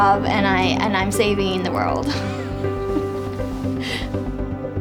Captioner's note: laughs